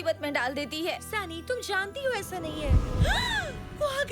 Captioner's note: gasping